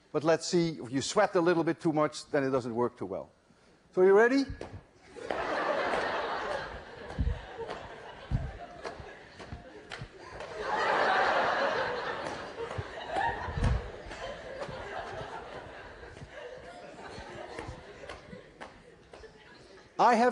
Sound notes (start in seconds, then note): 7.1 laughter; 9.2 more laughter as gets hit in the face